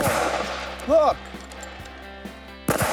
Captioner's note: gun firing